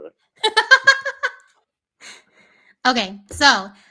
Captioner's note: laughing